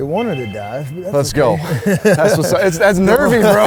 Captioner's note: laughs